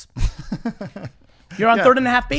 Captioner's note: laughs